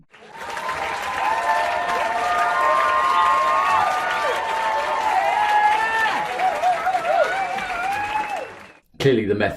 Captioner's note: wild cheers and applause sound effect